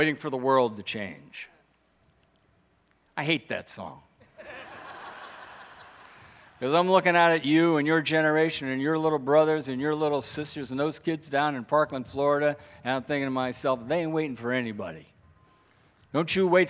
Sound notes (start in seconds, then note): 4.4 audience laughs